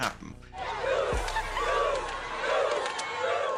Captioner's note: crowd chanting